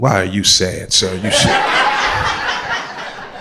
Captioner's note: crowd laughter